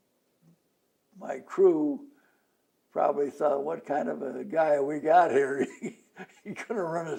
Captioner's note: laughs